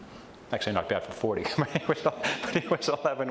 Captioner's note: laughs